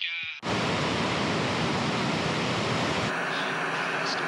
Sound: loud static

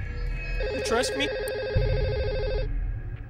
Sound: phone rings

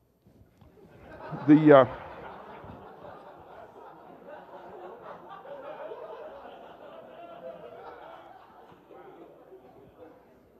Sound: laughter

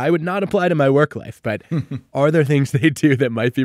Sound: chuckling

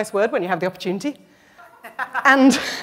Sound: laughter

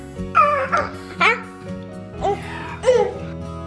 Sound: gurgles

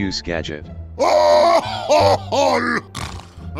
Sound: snort

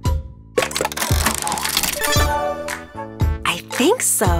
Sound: turning sound

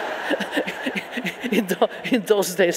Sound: audience laughing

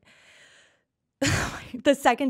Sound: Liz exhales sharply

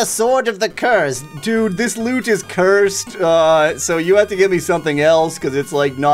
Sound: churlishly

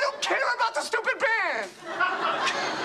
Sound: laughs

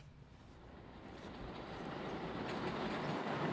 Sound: sound of Moving Train

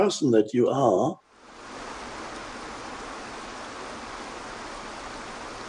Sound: waterfalls streaming

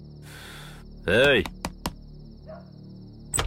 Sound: knocking

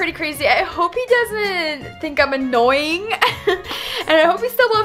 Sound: chuckles

